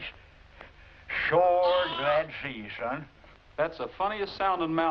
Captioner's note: bleating